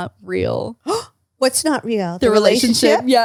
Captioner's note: gasps